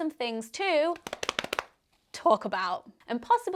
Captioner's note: hands slapping